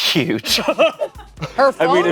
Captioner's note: everyone laughs